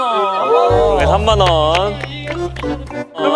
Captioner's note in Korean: funfun하게 박수 치기